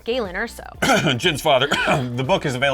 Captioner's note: cough